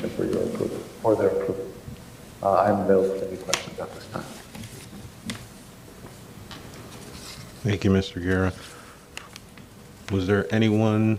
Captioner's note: choppy audio